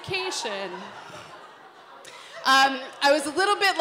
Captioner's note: laughter